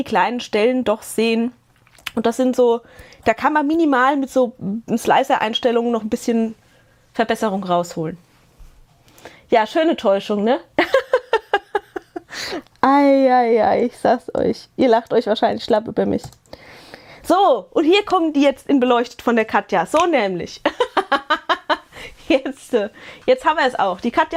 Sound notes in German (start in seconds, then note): 10.8 gelächter; 20.6 gelächter